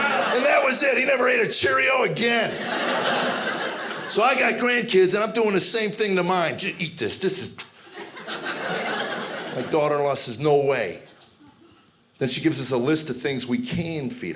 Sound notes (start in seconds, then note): 2.3 audience laughing; 7.9 audience laughing